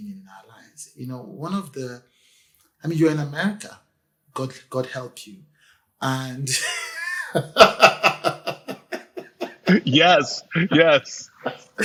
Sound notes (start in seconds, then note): 6.5 laughs